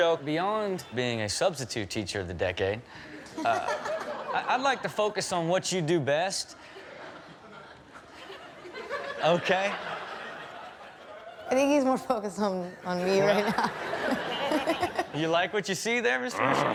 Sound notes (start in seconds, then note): 13.4 chuckles